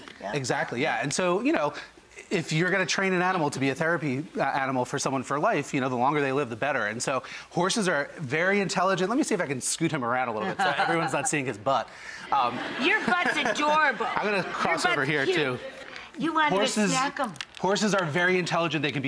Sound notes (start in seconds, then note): 12.2 audience laughs